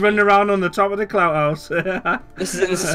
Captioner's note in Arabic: يضحك